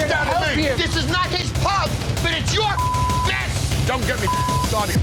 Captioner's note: beep